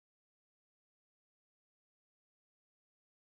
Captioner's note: none